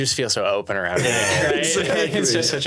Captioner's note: laughing